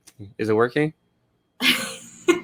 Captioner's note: laughs